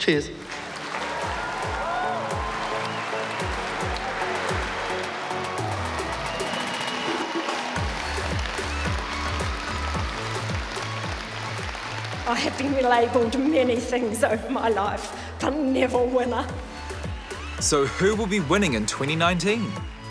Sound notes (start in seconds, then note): 1.0 cheering; 9.0 cheering continues